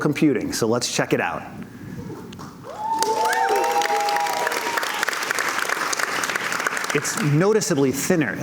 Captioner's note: cheers and Applause